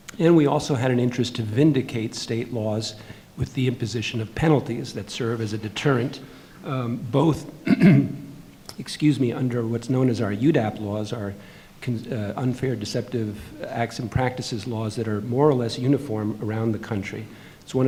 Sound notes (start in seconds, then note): 7.6 clearing throat